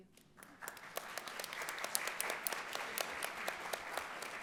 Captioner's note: audience applauds